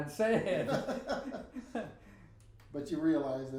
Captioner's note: both laughing